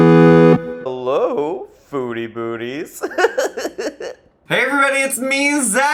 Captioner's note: video game music; laughs